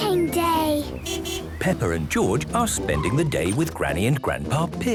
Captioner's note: beeping